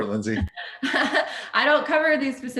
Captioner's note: laughs